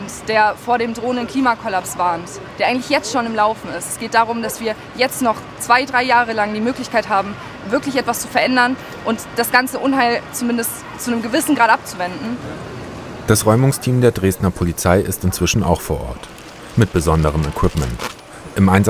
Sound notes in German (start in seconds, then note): none